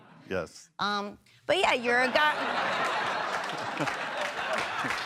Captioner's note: audience laughs